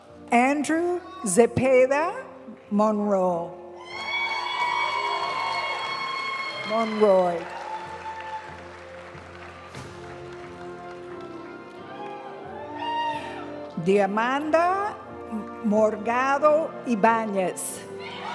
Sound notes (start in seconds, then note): 3.8 audience cheering and applauding; 8.9 graduation music